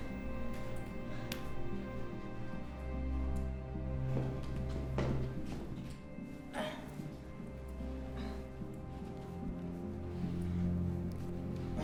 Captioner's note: footsteps